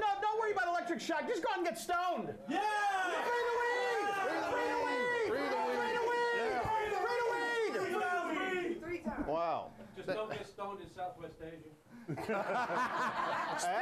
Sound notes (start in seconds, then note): 2.5 audience cheers; 12.0 laughter